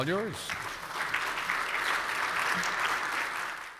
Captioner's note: audience applauds